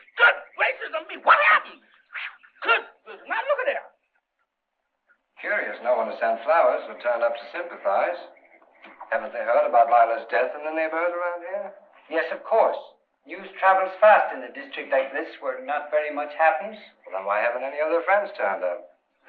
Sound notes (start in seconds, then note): none